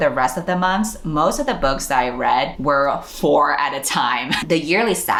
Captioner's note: laughs